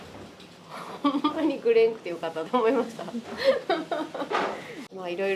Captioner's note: laughs